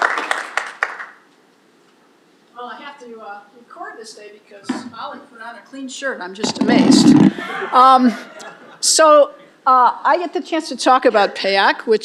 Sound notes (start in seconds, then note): 7.3 laughter